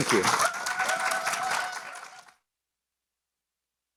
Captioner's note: applause